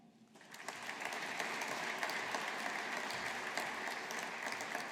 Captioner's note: audience applauding